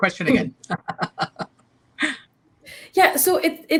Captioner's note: laughs